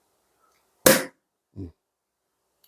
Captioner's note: pop!